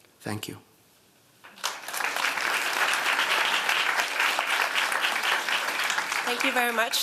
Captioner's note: applause